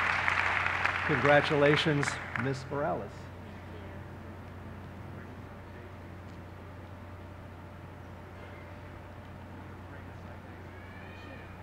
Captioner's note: cheers and applause; cheers and applause